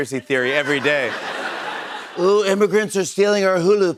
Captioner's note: laughter